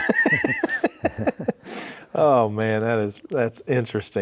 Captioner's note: chuckles